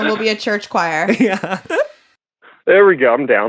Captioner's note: laughs